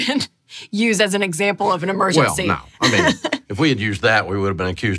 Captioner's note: laughing